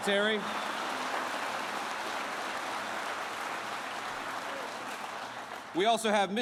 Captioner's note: applause